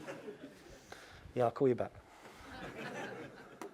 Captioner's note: laugh